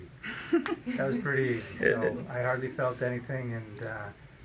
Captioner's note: woman chuckles